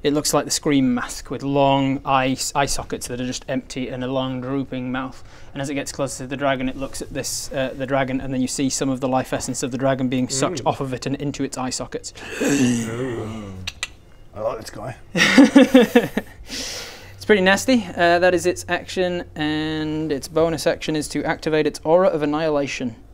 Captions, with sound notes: it looks like the scream mask with long eye sockets that are just empty and a long drooping mouth and as it gets closer to the dragon it looks at this the dragon and then you see some of the life essence of the dragon being sucked off of it and into its eye sockets ewwwww I like this guy *disturbed laugh* it's pretty nasty that is its action and its bonus action is to activate its aura of annihilation